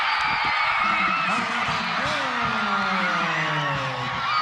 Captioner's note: crowd cheering